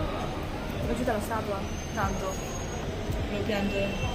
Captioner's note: in Italian